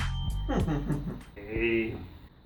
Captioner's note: laughs